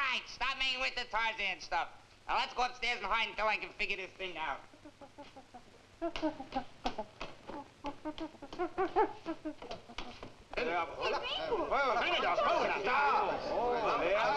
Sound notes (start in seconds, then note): 4.4 gorilla chittering; 10.4 people chattering faintly